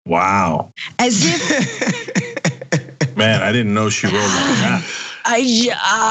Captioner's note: laugh